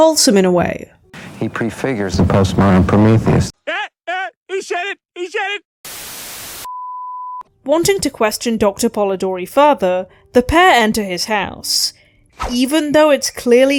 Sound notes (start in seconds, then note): 5.8 static